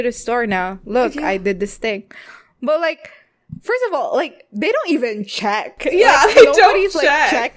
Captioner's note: both laugh